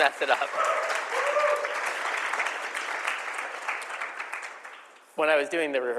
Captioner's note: applause